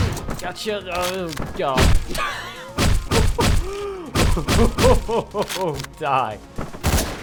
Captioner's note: laughing